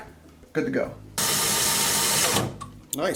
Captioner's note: drilling